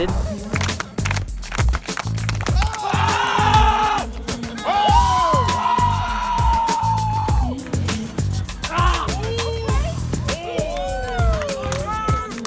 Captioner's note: cheering and clapping